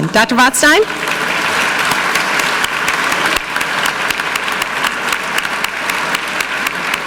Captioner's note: audience clapping; clapping